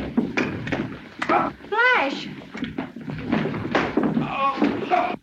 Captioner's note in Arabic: ريك يتأوه; أصوات ارتطام